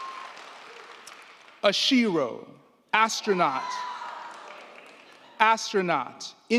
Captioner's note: crowd cheering